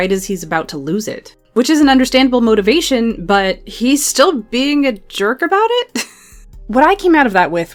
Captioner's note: laughs